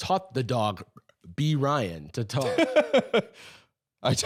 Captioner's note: laughing